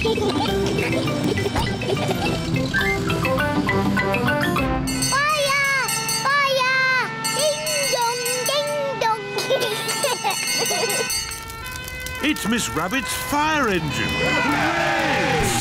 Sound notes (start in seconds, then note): 0.0 giggling; 7.1 bell rings; 9.3 children giggling; 11.0 siren blares; 13.8 all cheer